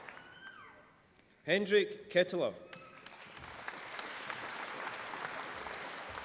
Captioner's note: applause